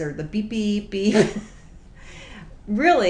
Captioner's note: snickering